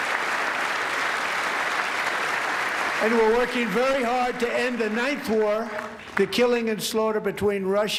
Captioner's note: applause